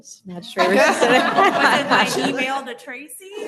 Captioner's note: laughter